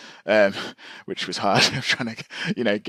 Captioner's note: laughs